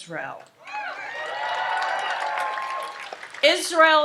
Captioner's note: audience applauds and cheers